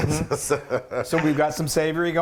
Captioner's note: laughing